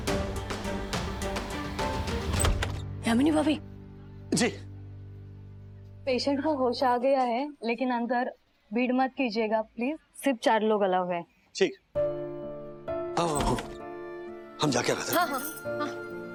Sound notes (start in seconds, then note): 2.1 door opening